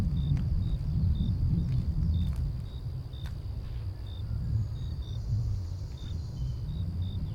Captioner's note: night sounds in the forest